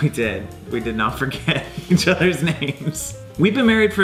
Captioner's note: laughing